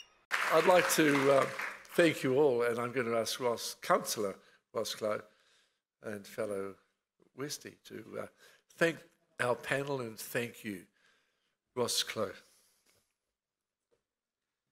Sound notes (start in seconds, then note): 0.2 clapping